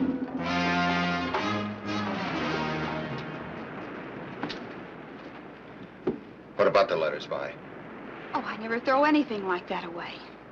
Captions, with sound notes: (dramatic music) (waves crashing nearby) - What about the letters, Vi? - Oh, I'd never throw anything like that away.